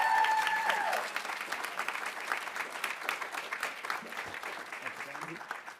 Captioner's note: audience cheering; audience applauding